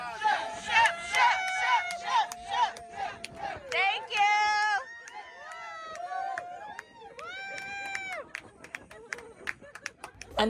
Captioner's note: cheering